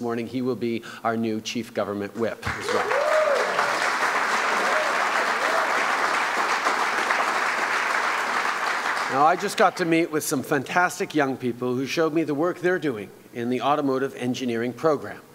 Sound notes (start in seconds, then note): 2.5 cheers & applause